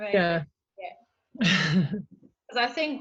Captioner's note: laugh